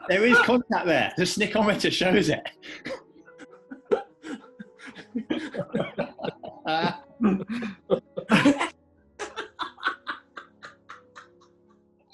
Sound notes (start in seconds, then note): 2.6 giggling; 11.9 laughing